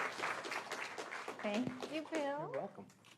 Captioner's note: applause